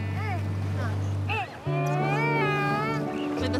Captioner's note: cries